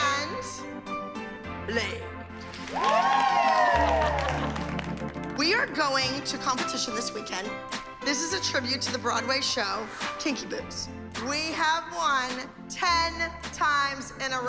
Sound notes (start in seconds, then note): 2.5 whooping